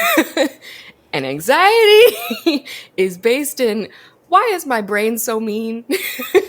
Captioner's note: laughs